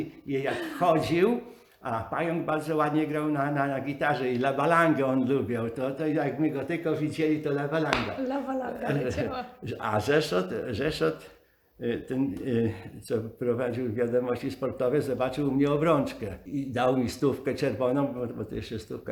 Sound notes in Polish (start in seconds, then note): 8.8 śmiech